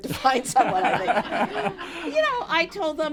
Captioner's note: laughter